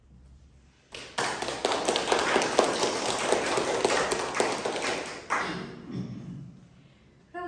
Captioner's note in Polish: oklaski